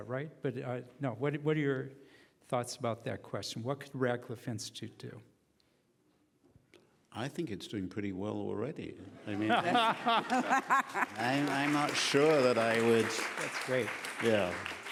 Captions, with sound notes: But no, what are your thoughts about that. question? What could Radcliffe Institute do? - I think it's doing pretty well already. [laughing] I mean, I'm not sure that I would-- - That's great. - Yeah.